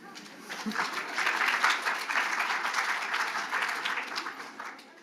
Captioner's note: audience applauding